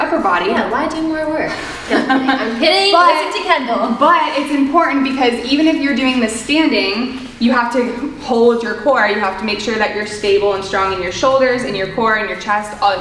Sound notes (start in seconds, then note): 1.8 both chuckling